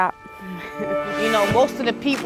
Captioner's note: laughing